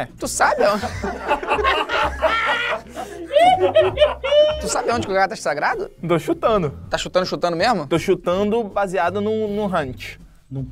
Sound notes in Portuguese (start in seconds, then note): 0.5 risadas